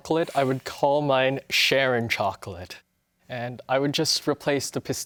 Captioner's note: none